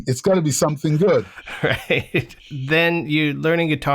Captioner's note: laughter